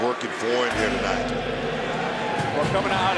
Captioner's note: gong rings